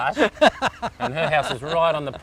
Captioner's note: laughs